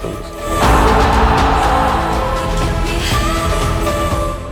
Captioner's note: crowd cheers